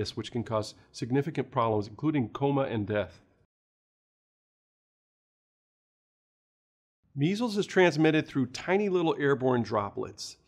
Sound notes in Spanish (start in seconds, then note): 3.2 Sin audio